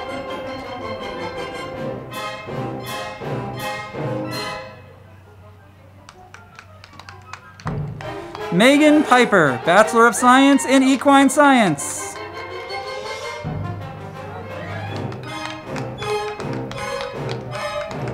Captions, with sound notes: Megan Pyper, Bachelor of Science in Equine Science. (band music) (crowd clapping)